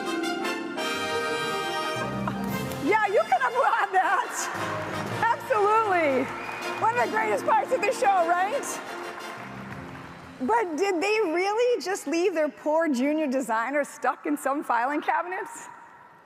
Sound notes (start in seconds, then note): 1.6 laughs; 4.4 audience applauds